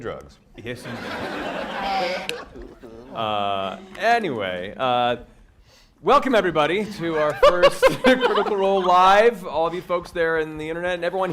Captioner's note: shushing noises